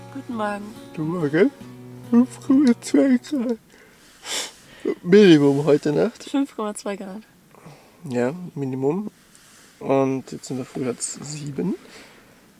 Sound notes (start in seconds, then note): 4.1 yawning